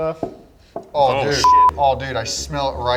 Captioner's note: beep